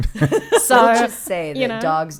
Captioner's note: laughing